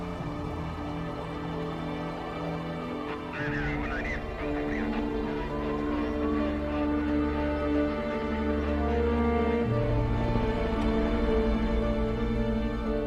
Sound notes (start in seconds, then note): 3.2 police radio chatter